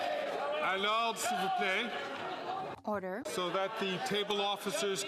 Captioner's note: cheering and Applause